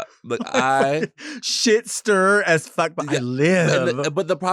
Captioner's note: laughs